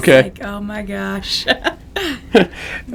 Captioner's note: laughter